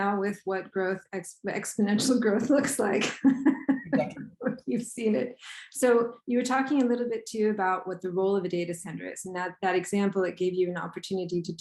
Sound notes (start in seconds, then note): 3.0 laughs